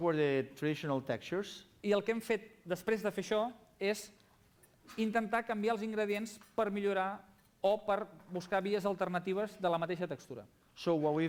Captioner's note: non-english speech